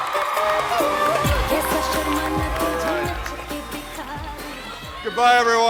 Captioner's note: audience cheering and applauding